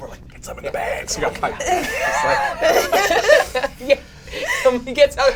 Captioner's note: all chuckle